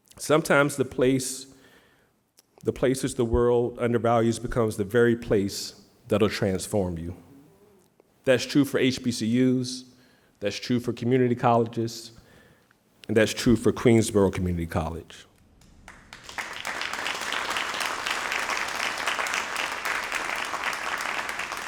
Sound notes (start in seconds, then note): 15.6 all applauding